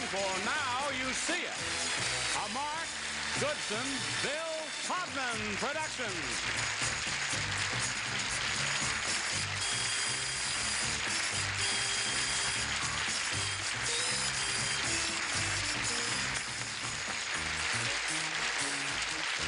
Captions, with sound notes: for Now You See It, a Mark Goodson , Bill Todman production. -(applause)